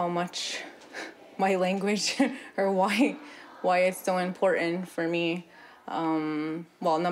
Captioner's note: speaking native language